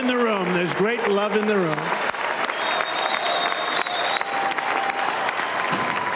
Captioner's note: cheers and applause